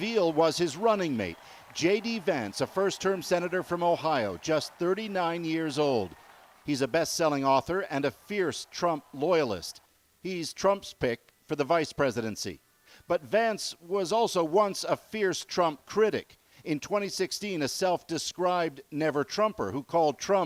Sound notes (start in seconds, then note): 0.6 cheers and Applause